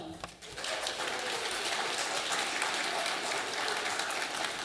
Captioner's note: audience applauding